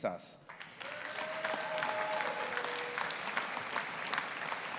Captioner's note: audience applauding